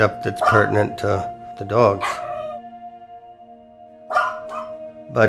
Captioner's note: dog barks